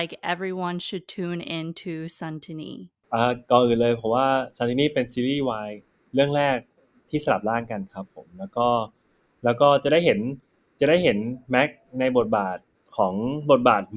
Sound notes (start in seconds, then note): 3.3 answering in Thai